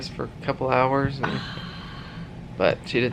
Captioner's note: sighs with relief